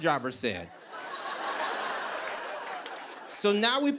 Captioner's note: laughter